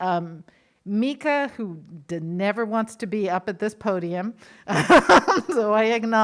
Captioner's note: laughs